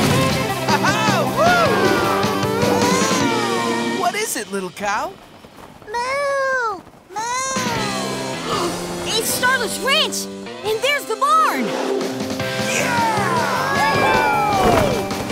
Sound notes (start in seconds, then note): 2.2 mooing; 5.4 mooing; 8.3 gasping